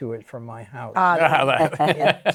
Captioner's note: laughter